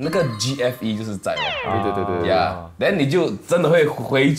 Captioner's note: drooling